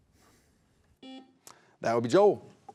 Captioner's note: buzzer buzzing